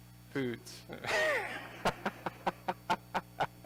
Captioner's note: laughing